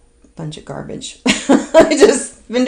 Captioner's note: laughs